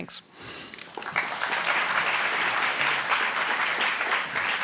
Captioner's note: applauding